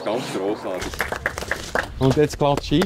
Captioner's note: audience applauds